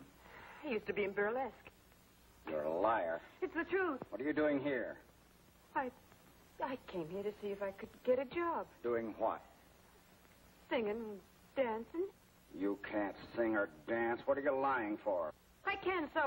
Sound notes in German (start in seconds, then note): 12.4 wütend